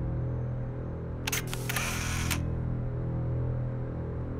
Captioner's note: camera click